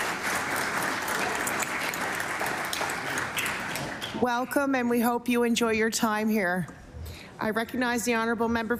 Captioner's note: applause